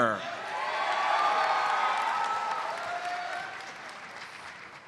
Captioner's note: audience cheers and applauds